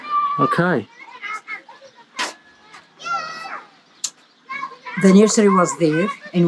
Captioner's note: children chattering in background